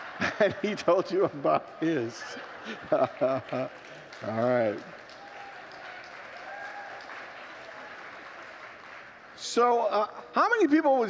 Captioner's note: congregants laugh